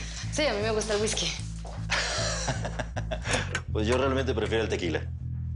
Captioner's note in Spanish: El ríe